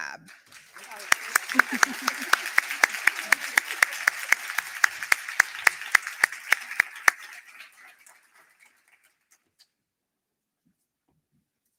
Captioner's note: applause